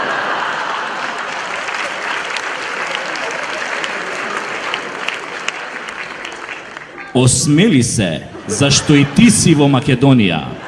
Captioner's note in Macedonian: аплауз